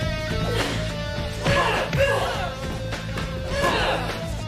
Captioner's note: groaning